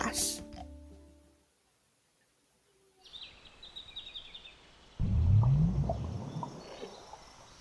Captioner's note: bird chirps, bubbling